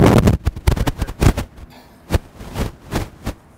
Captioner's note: wind blowing